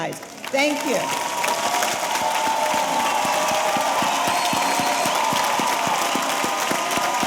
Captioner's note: audience applauding; audience cheering